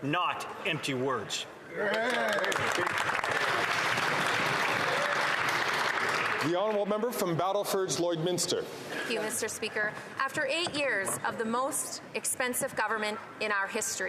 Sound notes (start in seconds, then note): 5.2 some Applause